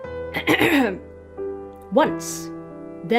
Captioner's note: clears her throat